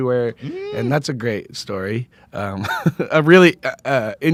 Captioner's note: laughs